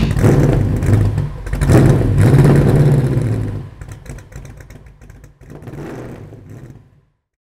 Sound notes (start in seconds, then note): 0.0 car engine revs